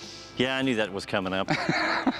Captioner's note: laughs